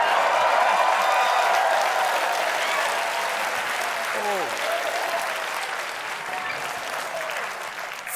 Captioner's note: applause